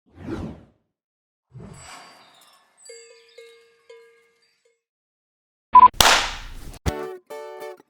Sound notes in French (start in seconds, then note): 5.8 Bip Bip; 5.9 Clap